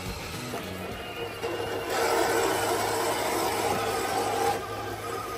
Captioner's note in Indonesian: Suara mobil